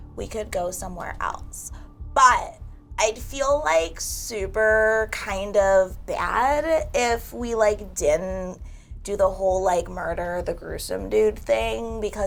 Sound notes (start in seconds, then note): none